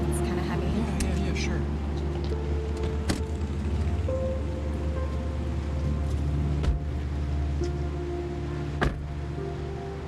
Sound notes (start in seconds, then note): 2.7 car door clicks; 3.0 slow music continues; 6.7 car doors thud